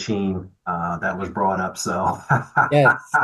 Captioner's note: laughs